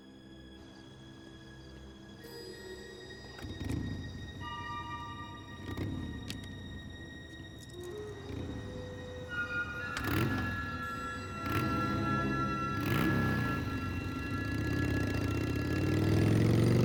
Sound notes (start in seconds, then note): 4.6 motorbike revving